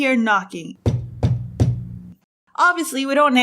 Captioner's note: initiate knocking